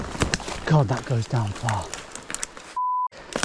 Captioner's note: beep